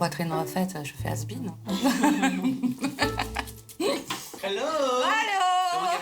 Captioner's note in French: rires